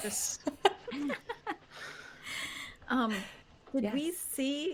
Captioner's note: laughing